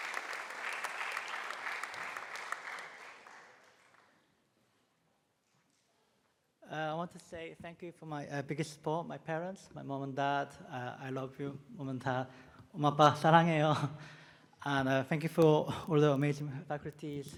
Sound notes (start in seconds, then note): 12.3 speaking Korean